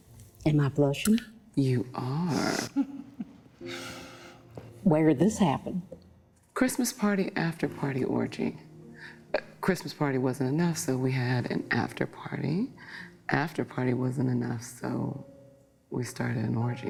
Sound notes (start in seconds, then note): 2.5 chuckles